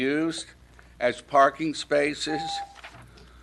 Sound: timer dings

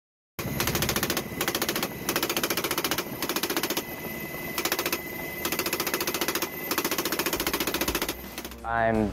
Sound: machine Gun Fire

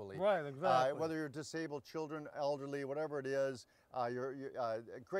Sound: stammering

